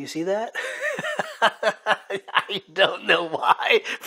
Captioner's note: laughs